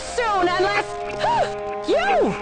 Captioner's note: gasps